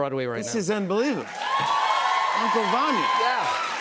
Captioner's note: cheers and applause